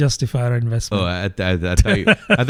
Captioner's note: uh